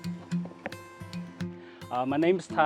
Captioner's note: pestle tapping